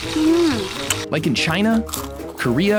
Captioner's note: scorpion crunches